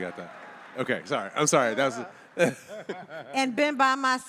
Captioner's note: laughs